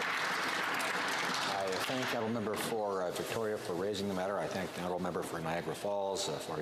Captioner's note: some Applause